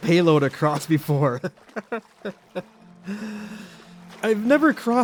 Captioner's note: sad laughs